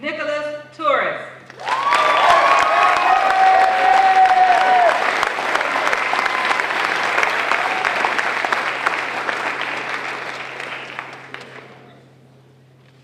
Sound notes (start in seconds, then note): 1.4 applause